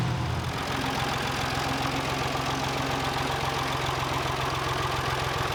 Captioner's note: tractor noise